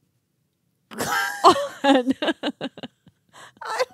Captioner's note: chuckling